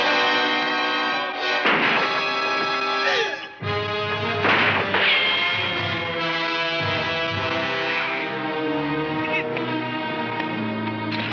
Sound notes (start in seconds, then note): 4.3 gunshots firing